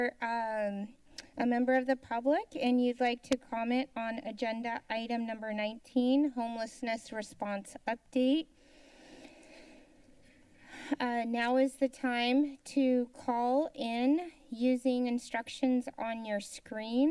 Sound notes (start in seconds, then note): 10.2 inhales